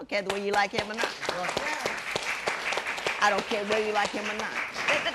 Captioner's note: applause